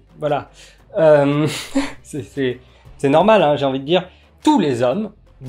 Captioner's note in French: rire